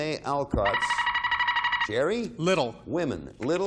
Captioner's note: buzzer beeping